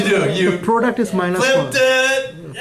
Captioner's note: voiceover